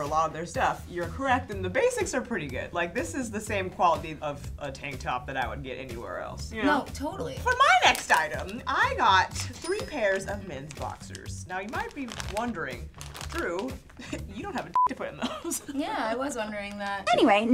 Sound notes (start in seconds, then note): 14.7 beep